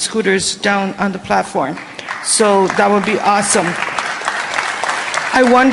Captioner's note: applause